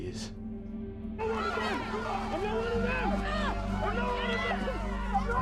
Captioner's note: angry mob shouting